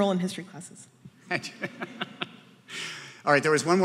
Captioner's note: laughs